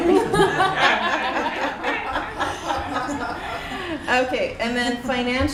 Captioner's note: laughter